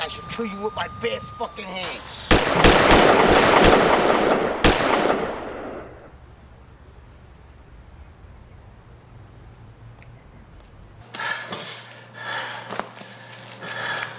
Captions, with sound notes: I should kill you with my bare fuckin' hands! (gun firing) (panting)